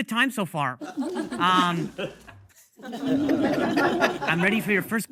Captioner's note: audience laughing